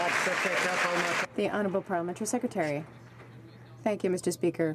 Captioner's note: some Applause